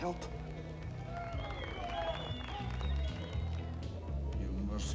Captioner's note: crowd cheering